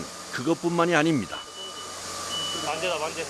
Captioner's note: beep